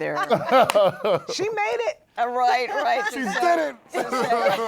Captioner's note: laughter